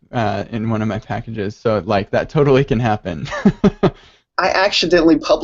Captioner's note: laughs